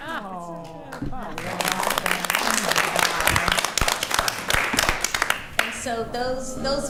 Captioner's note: attendees applauding